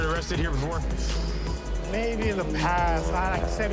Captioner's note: exhales sharply